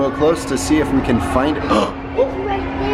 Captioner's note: gasps